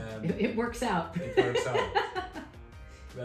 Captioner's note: laughs